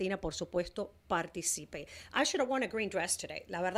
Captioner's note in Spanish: Hablando ingl\s